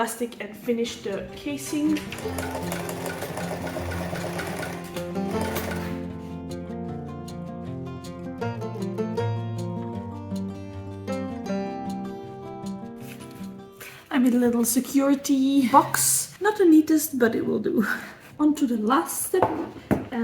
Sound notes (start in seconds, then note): 1.9 sewing machine noise